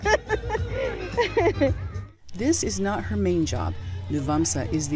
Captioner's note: laughing